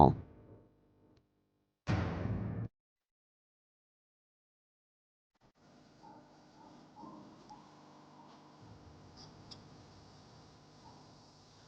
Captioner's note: silence